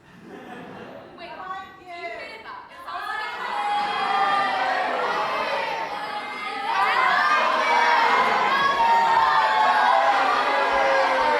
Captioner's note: audience shouts "IT'S BEHIND YOU!"